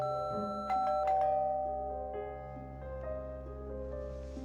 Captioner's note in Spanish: Bip; Timbre de la puerta